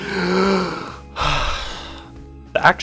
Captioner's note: inhales